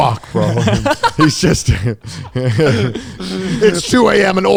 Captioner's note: laughing